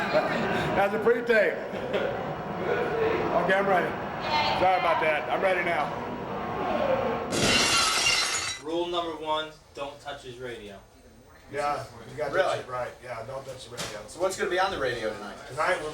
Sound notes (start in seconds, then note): 1.7 chuckles; 7.3 glass shatters